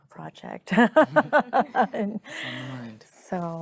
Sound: chuckling

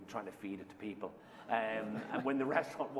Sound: laughter

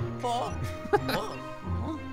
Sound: laughter

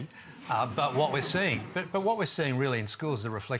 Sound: laughter

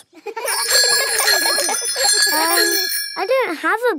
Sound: giggling and ringing bells

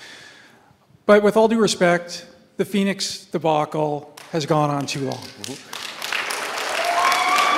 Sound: applause

